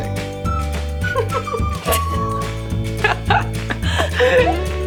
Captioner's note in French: rire